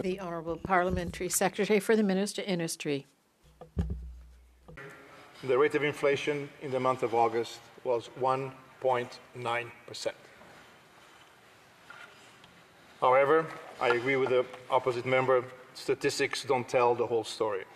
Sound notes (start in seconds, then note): 5.5 speaking French